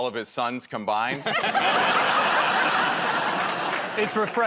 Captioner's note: laughter